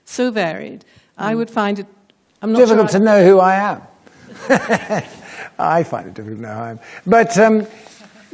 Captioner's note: laughter